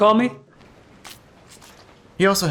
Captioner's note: crunch